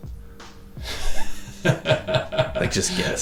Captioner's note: chuckles